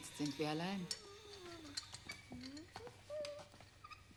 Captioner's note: speaking german; child humming